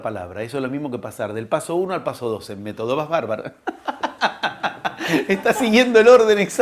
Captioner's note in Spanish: risas